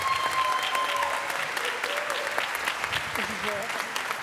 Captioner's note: applause